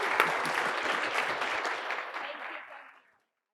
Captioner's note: audience applauding